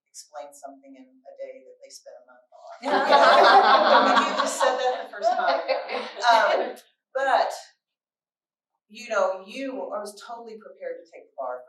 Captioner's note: laughter